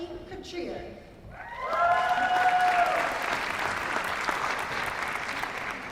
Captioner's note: applause